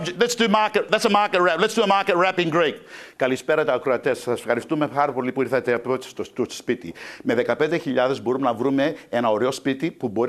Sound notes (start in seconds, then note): 3.1 speaking in Greek